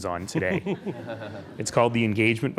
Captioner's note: laughing